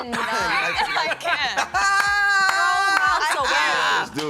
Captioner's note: laughing